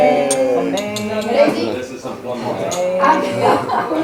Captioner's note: group chattering